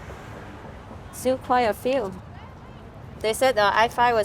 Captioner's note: speaking in foreign language